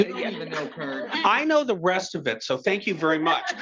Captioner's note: attendees chattering together